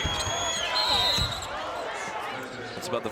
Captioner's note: whistle blows